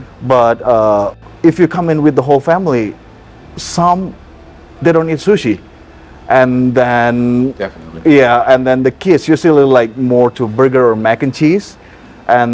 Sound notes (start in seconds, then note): none